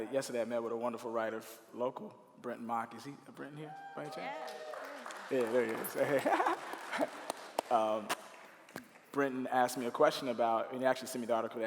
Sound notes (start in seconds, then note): 3.6 cheering; 4.3 clapping